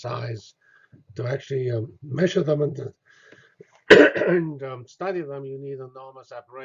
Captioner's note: cough